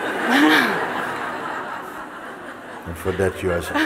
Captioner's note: laughter